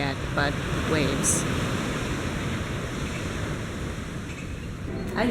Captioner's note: crashing water sounds